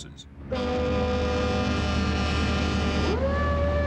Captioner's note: sirens blaring